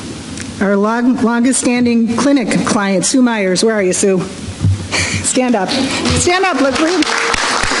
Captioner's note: applause